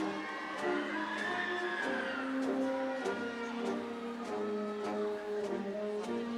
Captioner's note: audience cheering; upbeat ceremonial music